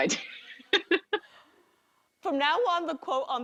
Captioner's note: laughs